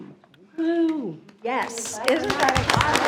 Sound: trustees cheers

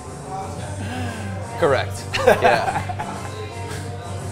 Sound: laughs

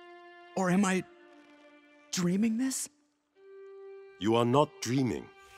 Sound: none

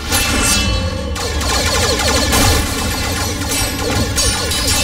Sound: blasting

